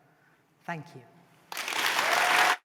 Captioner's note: applause